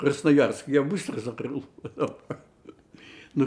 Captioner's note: laughing